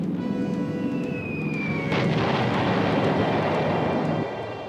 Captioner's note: explosions